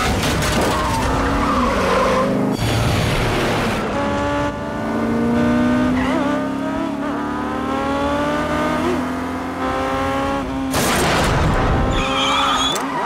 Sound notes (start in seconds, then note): 0.1 tires screeching; 10.3 thudding; 11.4 tires screeching